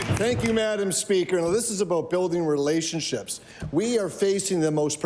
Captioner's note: applause